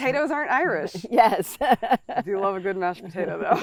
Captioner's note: laughs